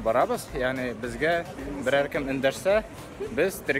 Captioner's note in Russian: на турецком